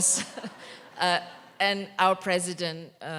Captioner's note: audience laughter